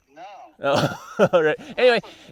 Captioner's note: laughs